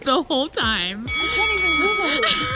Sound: bell dings

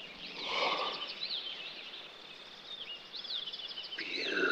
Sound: Bubba gasping

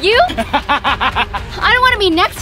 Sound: laughs loudly

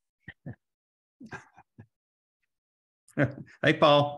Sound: chuckles

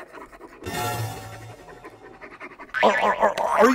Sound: pencil etching

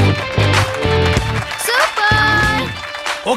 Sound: applause

